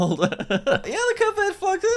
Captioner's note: laughing